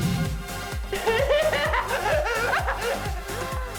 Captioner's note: laughing hysterically